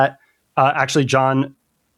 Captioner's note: uh